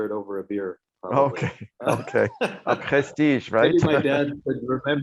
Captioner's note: laughs